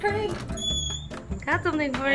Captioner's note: door creaking